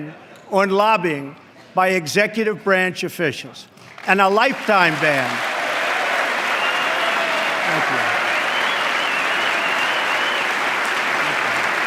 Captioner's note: applause